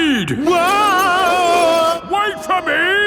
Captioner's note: yelling